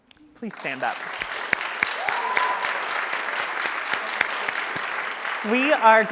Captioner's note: audience cheering and applauding